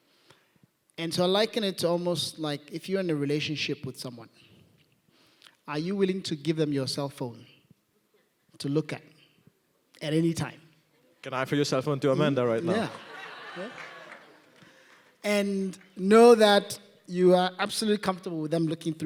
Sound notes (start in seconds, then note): 12.5 laughing